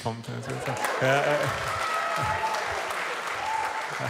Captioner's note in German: Applaus, leiser Jubel